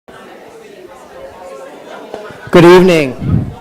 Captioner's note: audience chattering